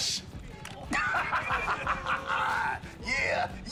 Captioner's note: laughs